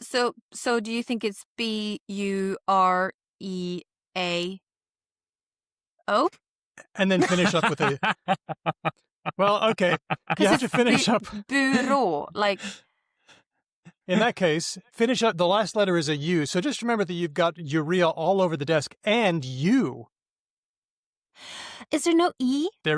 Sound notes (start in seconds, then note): 7.1 laughs